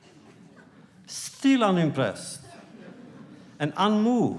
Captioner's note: laughter